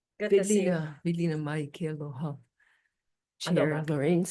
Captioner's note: speaks Hawaiian